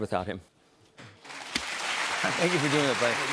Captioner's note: applause